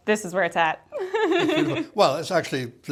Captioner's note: laughing